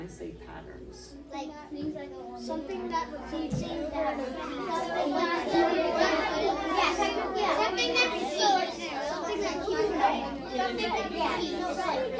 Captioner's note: students talking with partners